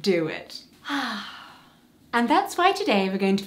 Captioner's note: calming sigh